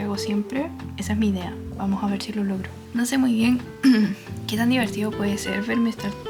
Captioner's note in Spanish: carraspeo